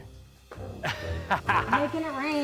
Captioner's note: laughing